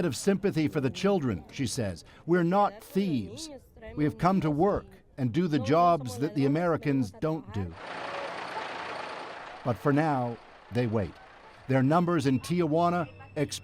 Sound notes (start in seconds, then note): 3.2 speaking spanish